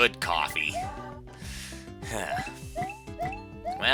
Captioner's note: breathing